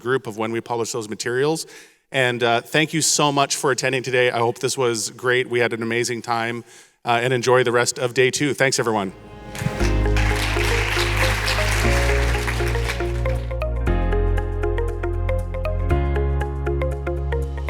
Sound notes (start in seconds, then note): 9.1 soft upbeat music; 9.5 audience applauding